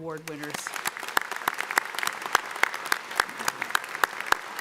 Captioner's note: audience applauding